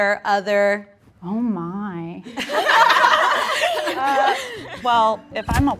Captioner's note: everyone laughs